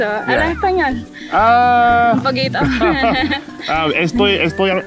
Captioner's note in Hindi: हंसते हुए